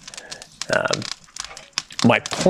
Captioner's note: fire crackles